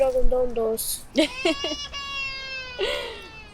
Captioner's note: laughs